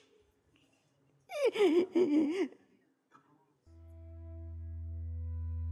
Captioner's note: crying